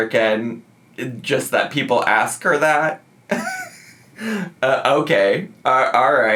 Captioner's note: laughs